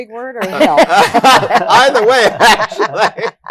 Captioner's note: laughter